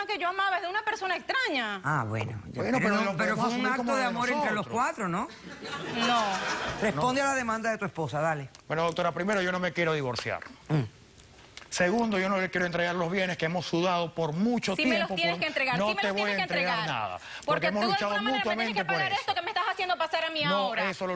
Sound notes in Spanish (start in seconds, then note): 5.4 risas